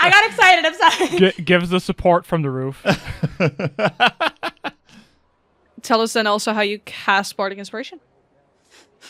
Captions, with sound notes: (Laughing) I got excited, I'm sorry! (Laughs) Gives us support from the roof. [Laughter] Tell us then also how you cast Bardic Inspiration.